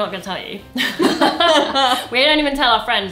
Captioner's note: laughs